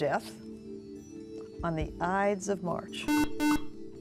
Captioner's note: buzzer